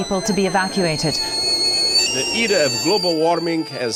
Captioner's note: kettle whistles even louder